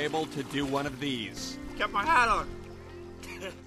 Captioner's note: laughing